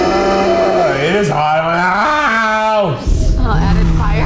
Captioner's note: fire blasting; yelling; yells